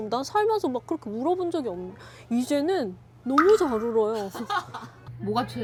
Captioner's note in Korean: 웃음